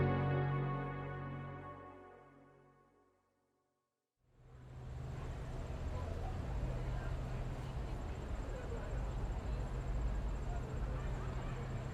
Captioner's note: street Noise